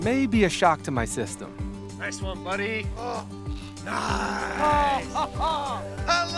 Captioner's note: laughs